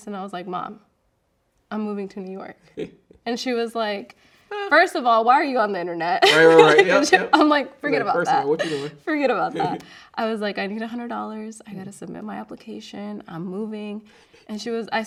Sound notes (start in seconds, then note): 6.2 laughing